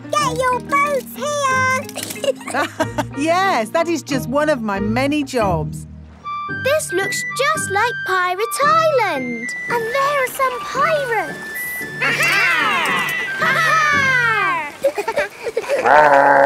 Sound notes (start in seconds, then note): 1.8 laughs; 15.4 laughing